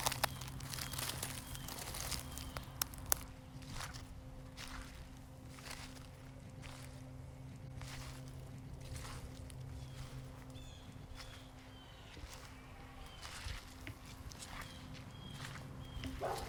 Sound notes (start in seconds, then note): 1.2 birds chirping; 4.7 leaves rustling